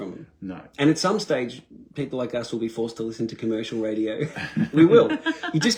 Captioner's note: laughter